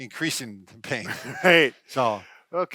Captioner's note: chuckles